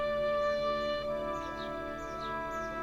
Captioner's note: birds chirping